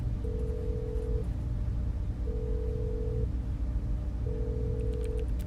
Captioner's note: phone line ringing